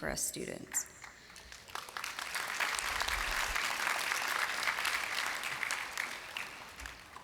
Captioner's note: applause